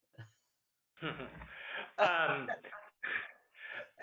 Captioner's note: laughter